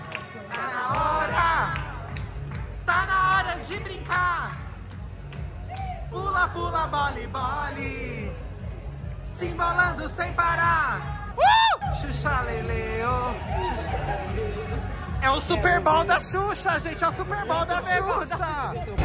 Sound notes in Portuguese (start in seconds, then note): 11.4 gritos; 12.1 canta